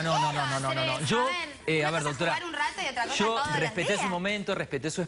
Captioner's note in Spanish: hablan al unisono